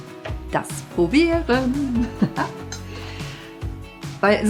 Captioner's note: laughs